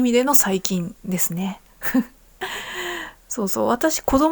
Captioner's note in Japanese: 笑い; 息をのむ音